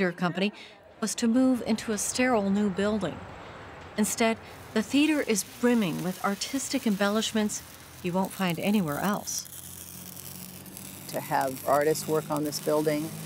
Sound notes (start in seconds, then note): 10.1 welding